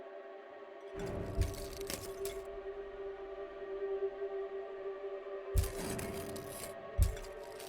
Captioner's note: intense music; glass crunching